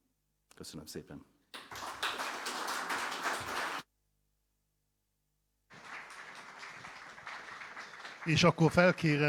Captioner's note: applause, audio error in the broadcast